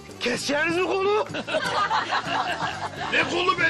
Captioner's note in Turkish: Kahkaha sesleri duyulur